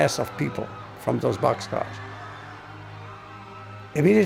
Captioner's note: people screaming